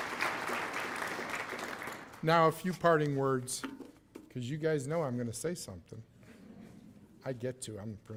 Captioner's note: cheers and applause